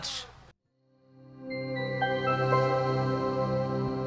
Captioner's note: logo chiming